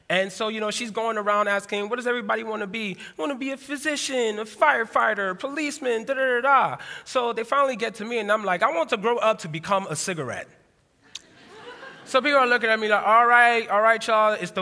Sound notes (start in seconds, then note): 11.2 laughter